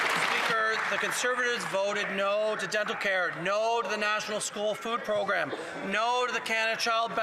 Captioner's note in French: voix de l'interprète